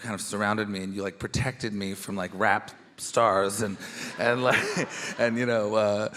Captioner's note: chuckles